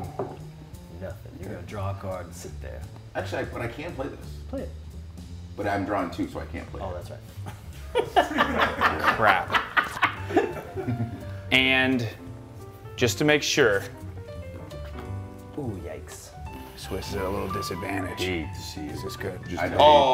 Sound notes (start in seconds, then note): 11.1 laugh